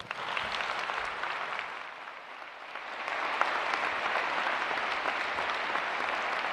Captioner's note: applause